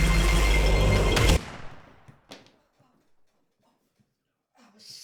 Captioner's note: intense music; gun shoots